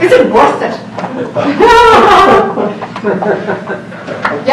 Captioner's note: laughing